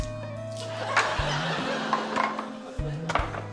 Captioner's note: laughter; knife bangs